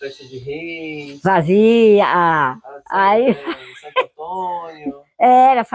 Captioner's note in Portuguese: risos